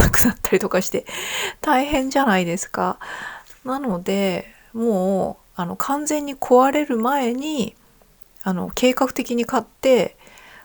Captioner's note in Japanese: 息をのむ音